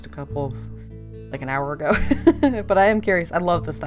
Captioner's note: laughs